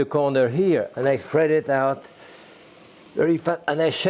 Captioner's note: pan sizzling